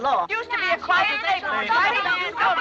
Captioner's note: clamoring